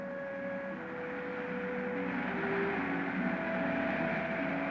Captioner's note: engine puttering